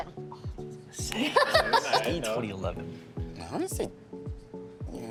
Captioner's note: laughing